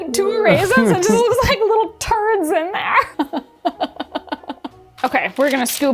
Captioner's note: laughs